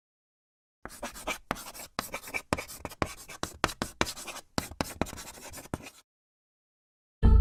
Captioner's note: chalk writing on chalkboard